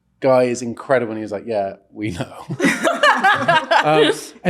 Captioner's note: all laughing